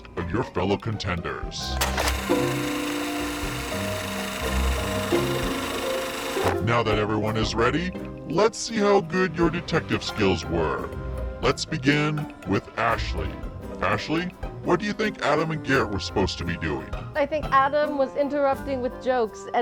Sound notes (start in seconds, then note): 1.6 film whirring; 2.4 gentle music